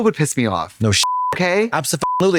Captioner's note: beep